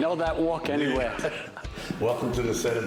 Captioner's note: laughter